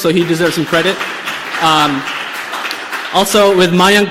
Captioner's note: applause